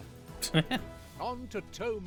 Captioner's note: laughs